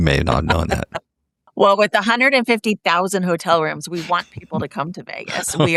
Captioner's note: laugh